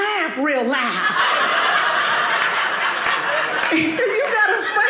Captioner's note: audience laughing